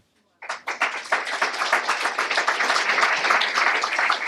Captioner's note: applause